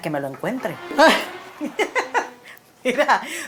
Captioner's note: laughs